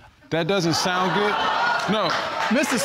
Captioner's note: audience exclaiming